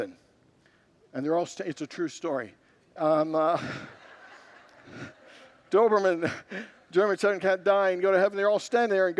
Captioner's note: congregants laugh